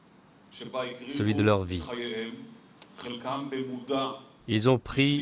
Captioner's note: Hebrew spoken audio